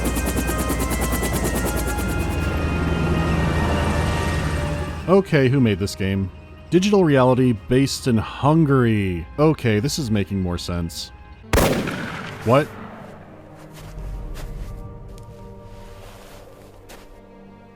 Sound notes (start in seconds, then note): 11.5 gunshot